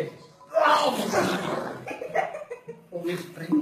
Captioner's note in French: rires